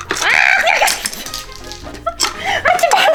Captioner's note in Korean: 웃음